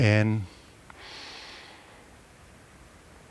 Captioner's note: breathing